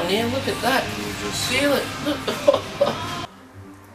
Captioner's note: laughs